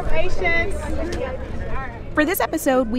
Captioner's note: tour goers chattering